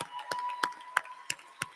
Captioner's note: applause